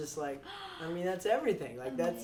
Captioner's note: gasps